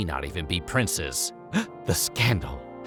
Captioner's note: gasps